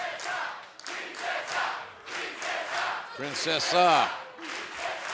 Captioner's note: fans chanting